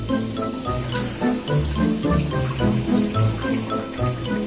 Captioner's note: sound of running water